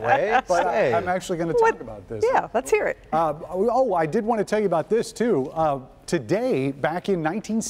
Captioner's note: laughter